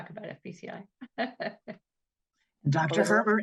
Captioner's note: laughs